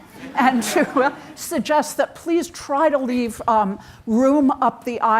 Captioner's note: audience chuckles; chuckles